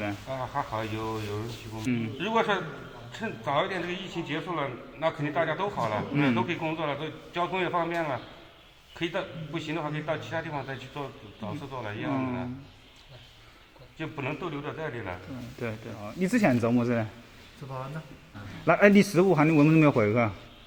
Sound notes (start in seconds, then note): 16.5 speaking in Wuhan dialect